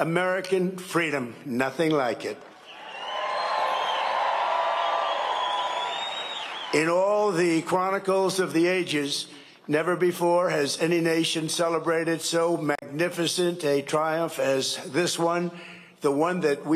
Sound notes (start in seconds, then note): 8.0 cheering and applause